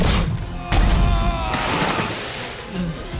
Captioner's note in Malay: menjerit